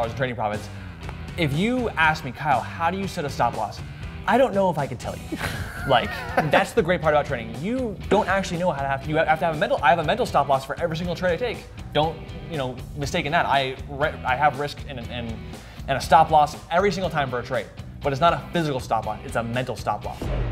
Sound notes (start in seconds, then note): 5.2 laughs